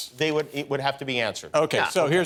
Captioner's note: none